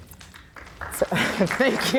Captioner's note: applause